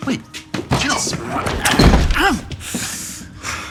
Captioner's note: door clatters